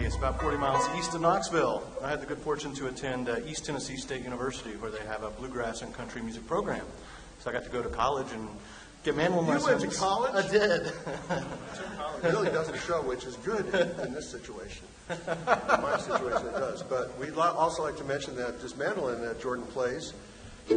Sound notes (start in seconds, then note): 10.7 laughter